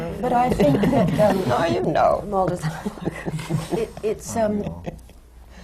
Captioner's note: laughter